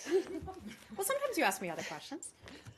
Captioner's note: laughter